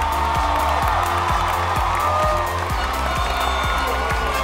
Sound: cheers and applause

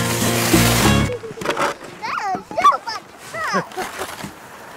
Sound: laughter

